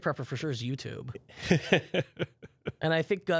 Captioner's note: laughs